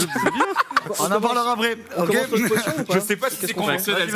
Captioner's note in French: rires